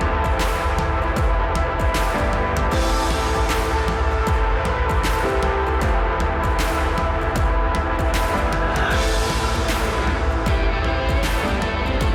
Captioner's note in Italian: Applauso